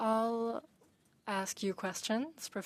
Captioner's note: speaking French